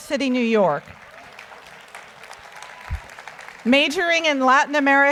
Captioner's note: audience applauds